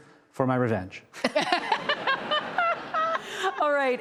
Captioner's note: laughter